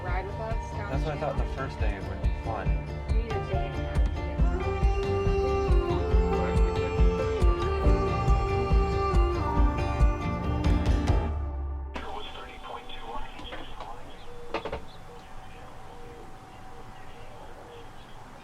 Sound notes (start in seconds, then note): 6.1 modern music; 12.3 faint weather radio voice